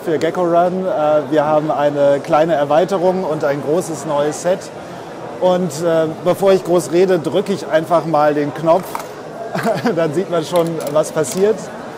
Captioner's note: laughs